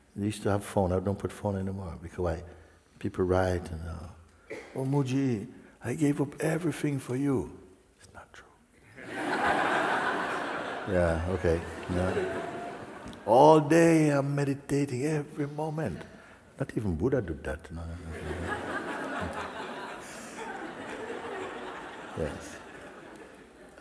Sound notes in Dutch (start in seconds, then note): 8.0 fluistert; 9.0 gelach; 20.6 gelach